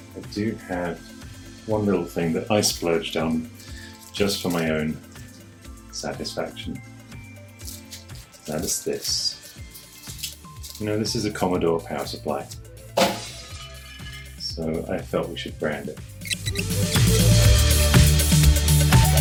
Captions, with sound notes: I do have one little thing that I splurged on just for my own satisfaction That's this No, this is a Commodore power supply (glass breaking) So I thought we should brand it